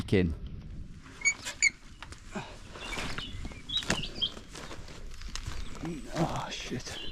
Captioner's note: fence squeaking; birds chirping